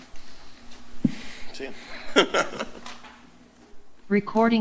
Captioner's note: background chatter